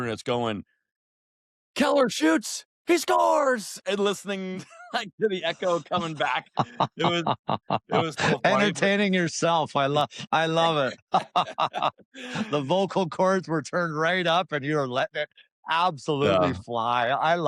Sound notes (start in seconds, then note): 8.0 laughs; 10.6 laughter